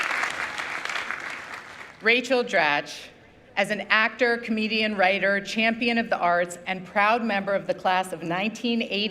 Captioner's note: applause